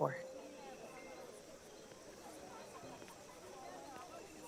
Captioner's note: insects chirring